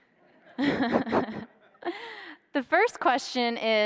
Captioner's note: laughs